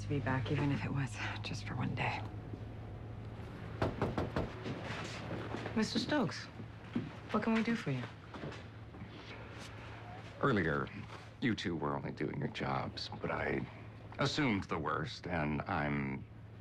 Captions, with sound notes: OH, IT WAS NICE TO BE BACK, EVEN IF IT WAS JUST FOR ONE DAY. (knock on door) MR. STOKES. WHAT CAN WE DO FOR YOU? EARLIER, YOU TWO WERE ONLY DOING YOUR JOBS,